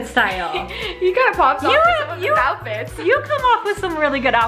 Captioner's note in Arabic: يضحك